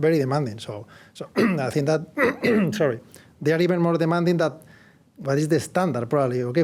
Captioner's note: cough